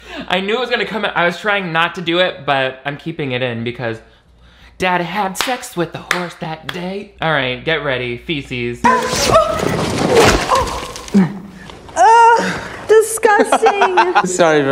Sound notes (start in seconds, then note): 8.4 grunting; 13.1 laughing